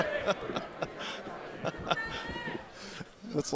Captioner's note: laughing